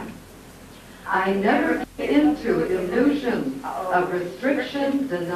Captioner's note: audio skips